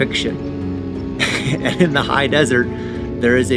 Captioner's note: engine rumbling